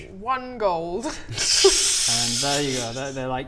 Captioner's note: audacious laughter